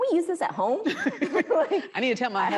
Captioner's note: laughing